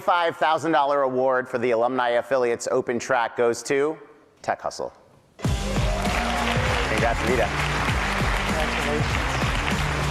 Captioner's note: applause